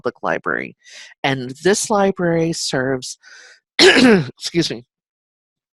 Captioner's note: coughs